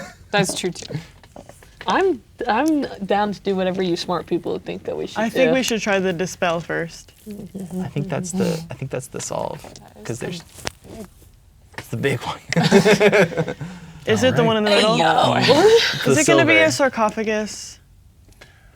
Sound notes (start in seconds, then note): 0.0 laughs; 10.5 quietly; 11.9 laughing